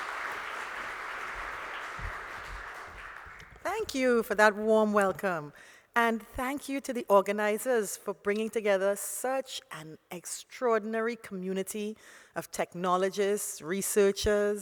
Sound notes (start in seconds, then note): 3.6 applause